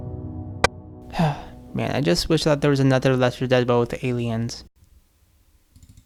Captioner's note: sigh; clicky-click